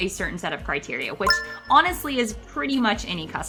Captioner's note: retro gaming beep sound